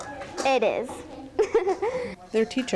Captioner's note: giggle